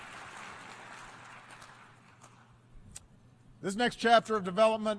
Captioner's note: applause